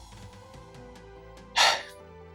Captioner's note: sigh